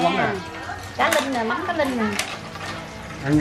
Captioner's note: people are talking